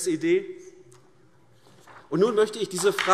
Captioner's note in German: Beifall AfD